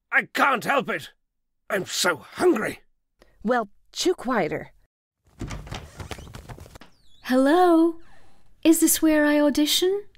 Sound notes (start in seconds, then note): 5.3 door opens; 5.3 wings flapping